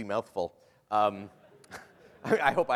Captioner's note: laughter